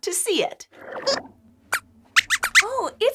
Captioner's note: squeaks squeaks